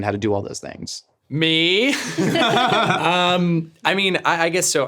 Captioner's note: laughing